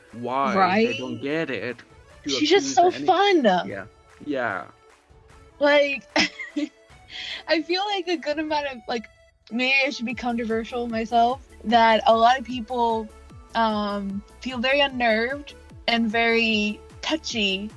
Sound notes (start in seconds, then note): 6.1 laughs in shock